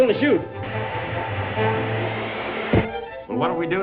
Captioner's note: body falls to floor